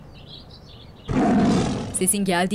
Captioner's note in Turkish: Kükreme sesi